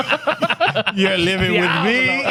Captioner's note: laughing